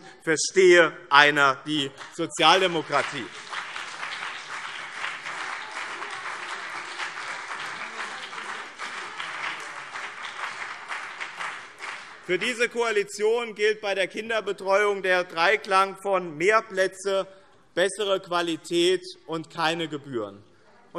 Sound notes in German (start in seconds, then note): 1.9 Beifall BÜNDNIS 90/DIE GRÜNEN und CDU - Zurufe SPD